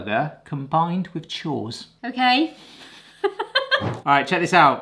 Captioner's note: laughter